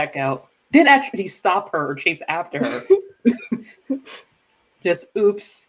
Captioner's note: laughs